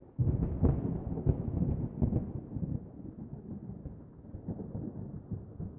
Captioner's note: thunder